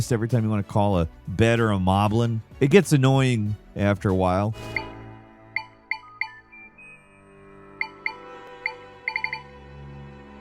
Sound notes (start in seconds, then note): 4.8 menu beeping